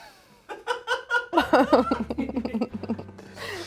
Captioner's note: laughs